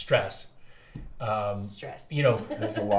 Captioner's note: laughs